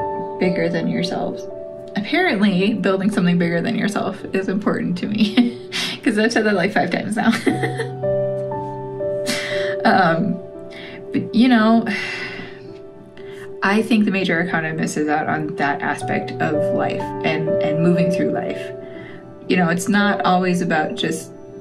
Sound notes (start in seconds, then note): 7.2 laugh; 12.1 sigh